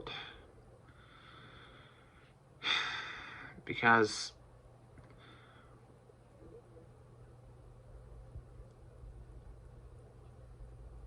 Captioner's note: stammers